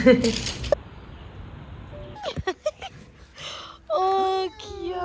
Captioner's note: laughs